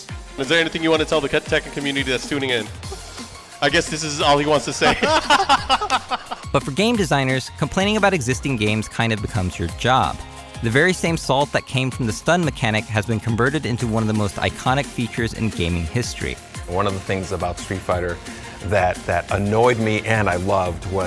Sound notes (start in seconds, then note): 4.3 laughter